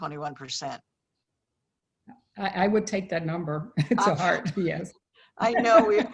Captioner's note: laughs